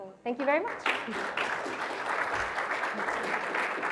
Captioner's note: applause